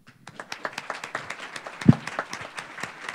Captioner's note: applause